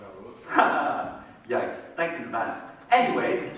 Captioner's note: laughs